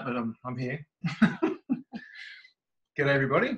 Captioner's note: laughs